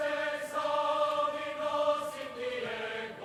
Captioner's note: none